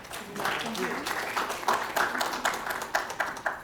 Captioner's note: applause